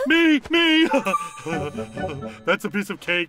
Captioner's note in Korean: 웃음